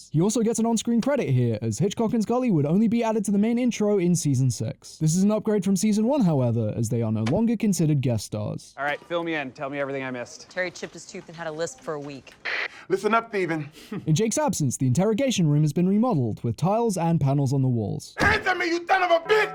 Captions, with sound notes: He also gets an on screen credit here as Hitchcock and Scully would only be added to the main intro in season 6. This is an upgrade from season 1 however as they are no longer considered guest stars. "Alright, fill me in. Tell me everything I missed." "-Terry chipped his tooth and had a lisp for a week." "-Lithen up Thteven." "*chuckle*" In Jake's absence the interrogation room has been re-modelled with tiles and panels on the walls. "ANTHER ME YOU THON OF A BITH!"